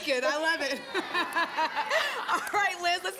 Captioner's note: laughter